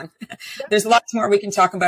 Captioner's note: chuckles